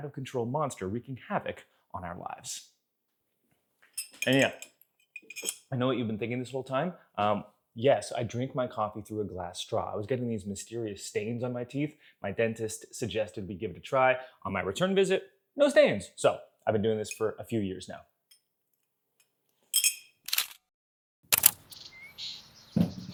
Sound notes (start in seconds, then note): 19.7 glass straw clicks; 21.3 camera shutter clicking; 21.5 birds chirping